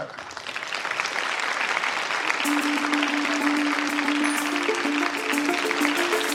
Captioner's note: applause